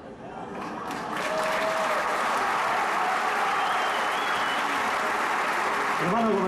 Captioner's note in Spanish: Aplausos